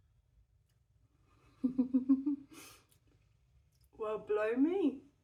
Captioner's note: chuckling